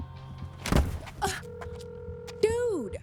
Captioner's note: jogger thudding; grunts